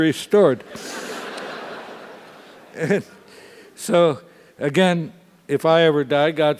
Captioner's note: laugh